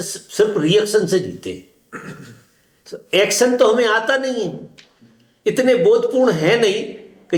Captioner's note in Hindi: गला साफ़ करने की आवाज़